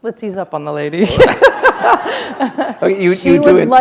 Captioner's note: laughter